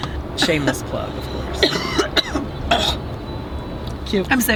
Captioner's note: Tana coughs